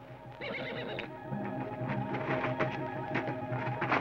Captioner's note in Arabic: صهيل الحصان